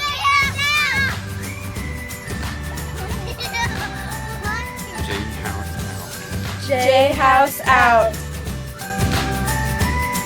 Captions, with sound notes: - J House out! (laughter) - J House out. - J House out.